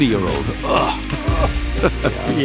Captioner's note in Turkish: Gülüyor